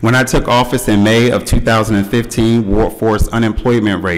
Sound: none

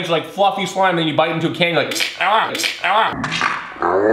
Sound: imitates cracking

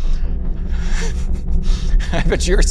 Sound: nervous laughter

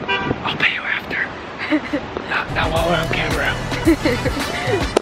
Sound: whispering; laughter

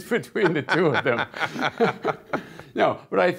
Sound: both laughing

